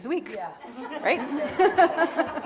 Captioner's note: audience laughing; laughs